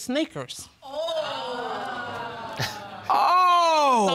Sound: all exclaiming

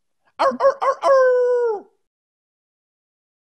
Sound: Rainn howls

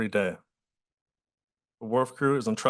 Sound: pause

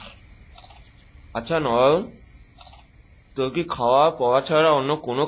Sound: eating

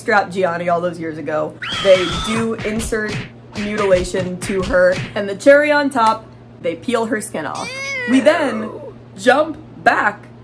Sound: screaming & punching sounds

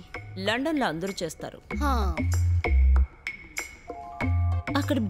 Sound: none

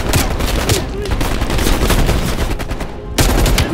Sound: gunshots

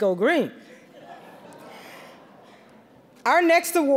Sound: audience laughing

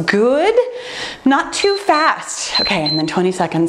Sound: timer beeps

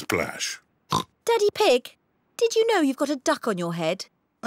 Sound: oinks

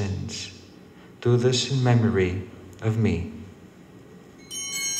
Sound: bell ringing

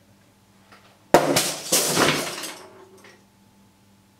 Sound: bang!

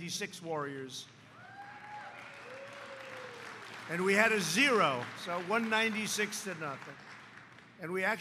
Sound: applause

